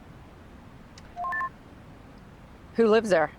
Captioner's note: radio beeps